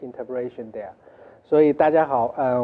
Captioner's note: Mandarin